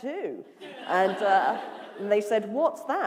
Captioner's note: laughter